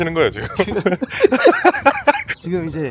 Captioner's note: laughs